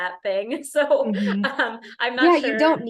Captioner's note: laughter